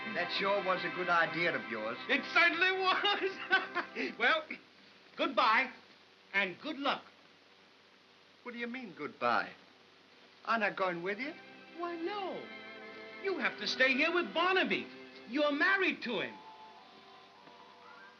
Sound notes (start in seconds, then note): 2.7 laughing; 17.5 soft music